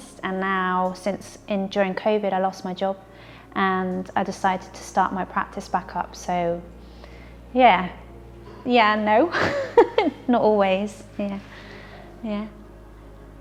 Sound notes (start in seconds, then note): 9.3 laughing